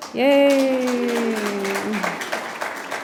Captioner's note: applause